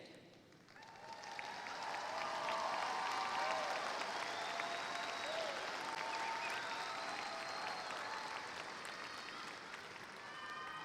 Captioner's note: applause